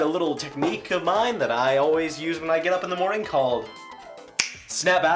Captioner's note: snaps